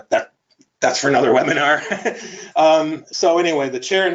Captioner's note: laughs